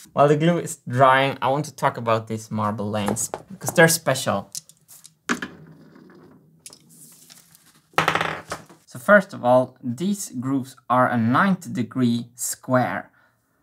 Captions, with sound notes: While the glue is drying I want to talk about these marble lanes because they're special. [marble rolling] [marble bounces on table] So first of all, these groups are a 90 degree square...